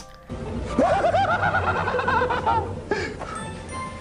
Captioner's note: manic laughter